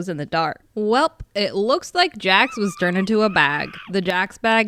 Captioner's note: feral screaming